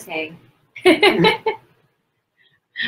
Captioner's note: laughter